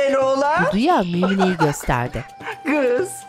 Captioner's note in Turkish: Gülme sesi